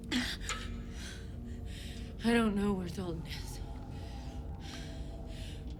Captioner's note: pants